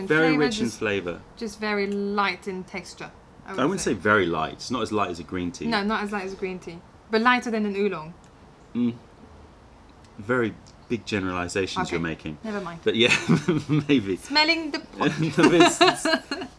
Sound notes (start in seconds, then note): 13.0 laughter; 15.0 laughter